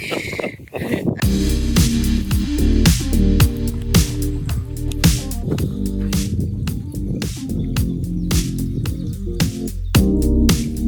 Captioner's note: birds tweeting